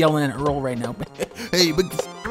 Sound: laugh

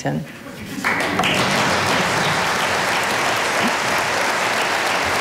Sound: audience applauding

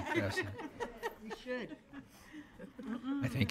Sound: laughter

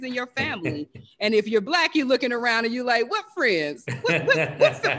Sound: laugh

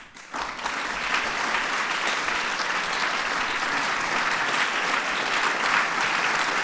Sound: applause

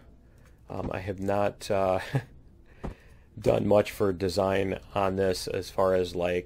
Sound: laughs

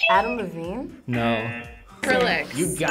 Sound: buzzer rings; buzzer

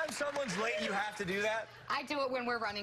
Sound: applause

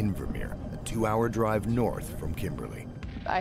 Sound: voiceover

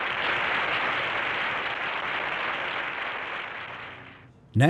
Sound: audience clapping

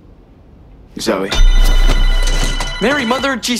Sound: phone rings

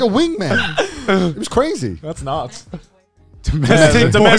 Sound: exclaiming

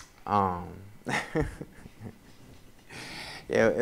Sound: laughs

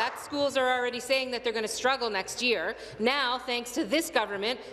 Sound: applause

